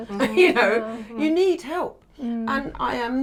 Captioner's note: chuckles